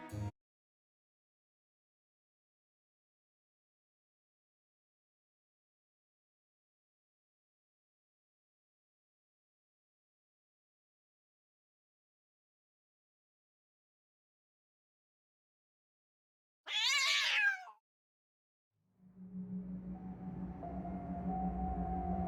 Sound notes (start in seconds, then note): 16.6 meow